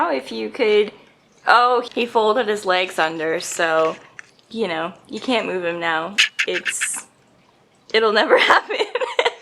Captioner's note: laughs